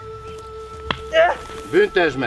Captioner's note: cries out